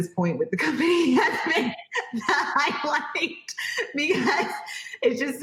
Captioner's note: laughs loudly